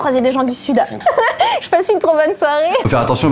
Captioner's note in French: rires